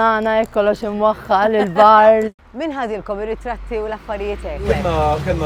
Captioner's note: laughs